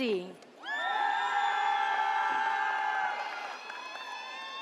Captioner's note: audience cheers